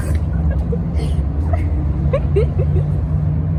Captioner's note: laughing